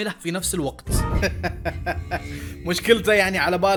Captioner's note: wicked laugh